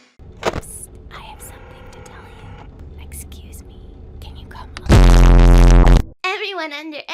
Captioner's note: hushed Whispering